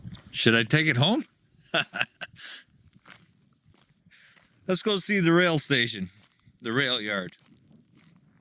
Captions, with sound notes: Should I take it home? (laughing) Let's go see the rail station. The rail yard.